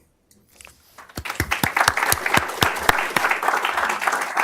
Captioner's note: applause